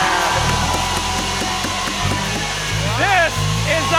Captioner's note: cheers and applause